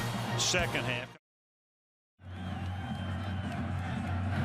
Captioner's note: cheering